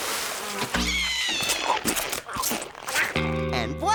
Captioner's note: chomping